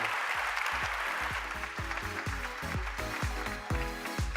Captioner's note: applause